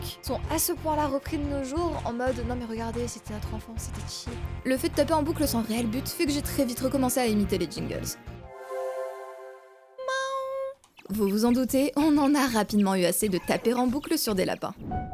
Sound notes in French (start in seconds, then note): 8.5 bruit de résurrection; 8.5 bruit de résurrection fort bien imité